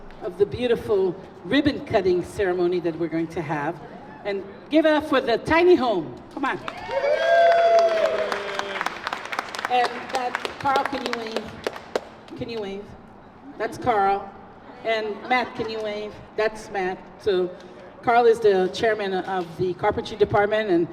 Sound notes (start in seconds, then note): 6.6 applause